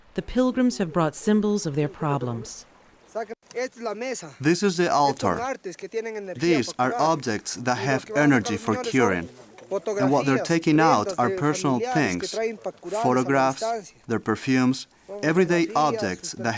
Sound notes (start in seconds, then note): 3.3 speaking in foreign language